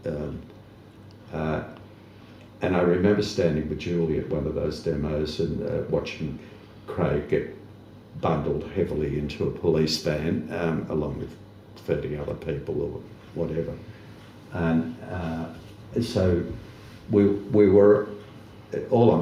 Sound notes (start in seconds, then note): none